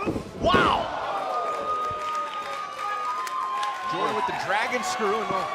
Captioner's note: crowd cheering